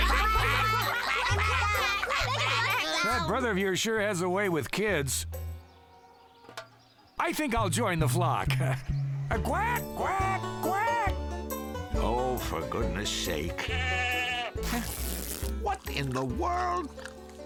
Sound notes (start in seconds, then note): 0.2 all quacking; 9.2 laughs; 14.6 fabric ripping